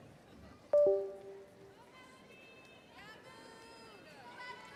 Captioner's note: tone sounding; overlapping chatter